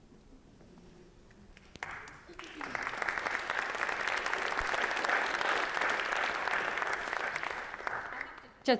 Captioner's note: applause